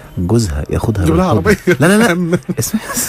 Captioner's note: laugh!